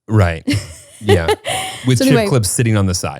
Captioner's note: laughs